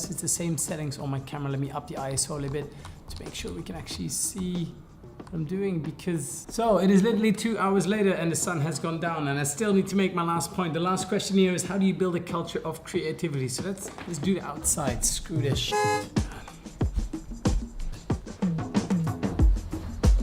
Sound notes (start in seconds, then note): 15.7 car horn; 16.9 funky upbeat music